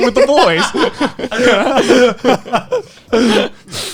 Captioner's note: laughing